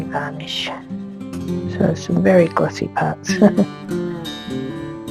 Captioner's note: laughs